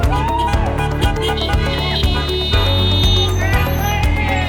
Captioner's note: horns honking